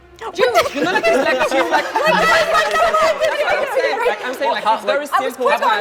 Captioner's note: group chattering